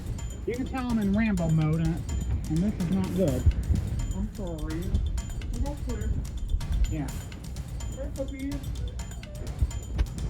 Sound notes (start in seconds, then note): 3.9 altered/distorted